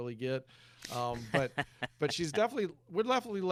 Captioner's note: laughs